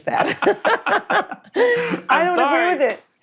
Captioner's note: laughing